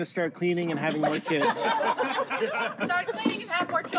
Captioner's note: laughter